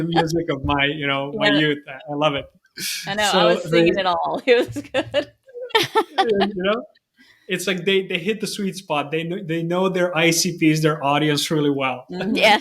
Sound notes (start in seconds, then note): 5.5 all laughing